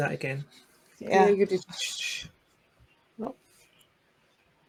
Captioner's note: shushes